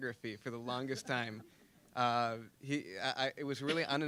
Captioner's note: audience chuckling